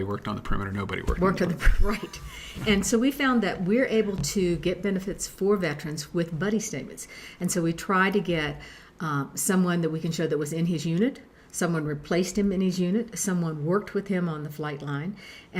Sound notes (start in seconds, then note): 1.6 laughing